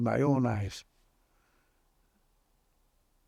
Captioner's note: pauses 6 seconds